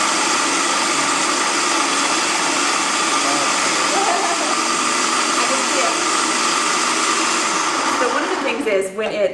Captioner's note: loud food processor noise